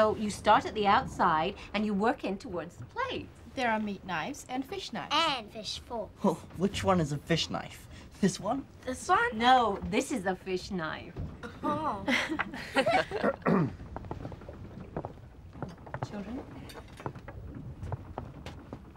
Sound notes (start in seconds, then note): 11.4 laughing; 13.2 throat clearing